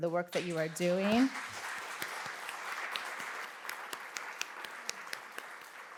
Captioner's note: applause